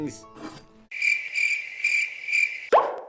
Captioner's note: crickets